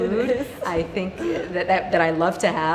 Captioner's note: laughing